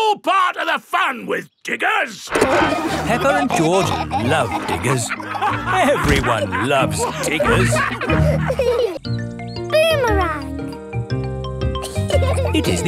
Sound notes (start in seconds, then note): 2.3 peppa and george laughing